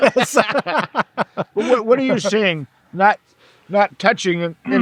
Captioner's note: laughing